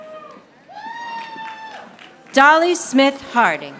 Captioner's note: audience applauding